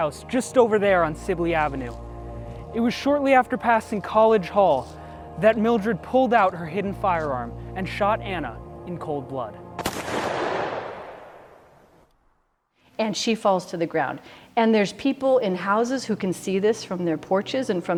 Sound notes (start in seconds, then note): 9.8 gun bangs